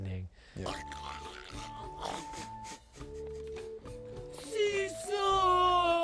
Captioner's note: chokes